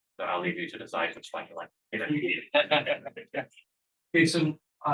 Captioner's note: audience laughter